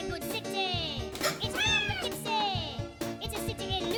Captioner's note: cat meows